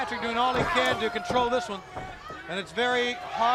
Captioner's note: crowd chatter